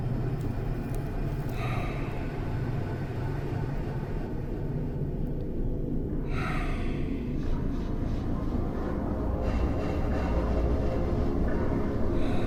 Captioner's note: Wanderer breathing